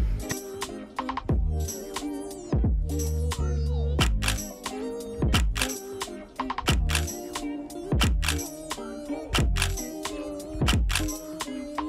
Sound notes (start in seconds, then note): 0.2 ambient music; 4.2 shutter clicking